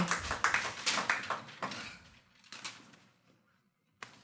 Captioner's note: attendees applauding